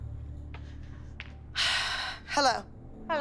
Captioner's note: sighs